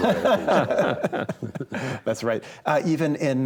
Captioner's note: all laugh